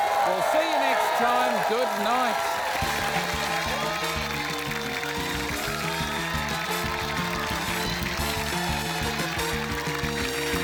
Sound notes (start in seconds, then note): 2.6 cheering, applause